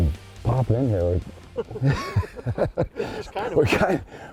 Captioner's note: laughter